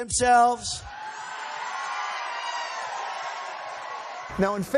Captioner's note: cheering